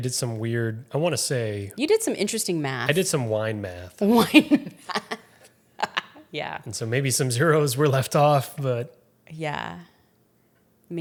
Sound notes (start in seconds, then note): 4.2 laughs